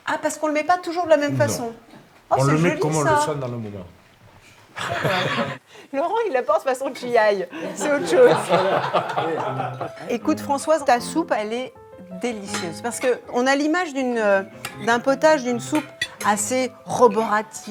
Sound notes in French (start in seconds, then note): 0.4 grognement; 7.5 rires